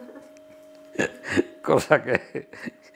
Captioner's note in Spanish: risas